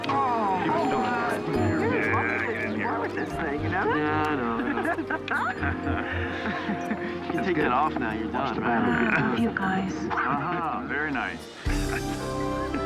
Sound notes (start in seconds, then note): 4.6 laughs